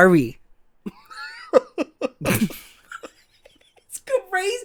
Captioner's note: laughs